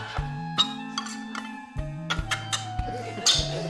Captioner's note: tin grinds